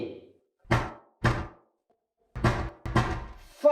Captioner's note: banging sound